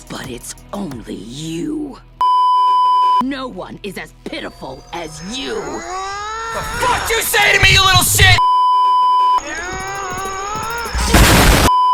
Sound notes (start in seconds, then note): 2.2 beeeeeep; 4.4 Steven groaning in anger; 9.4 Steven growling in anger; 11.7 beeeeeep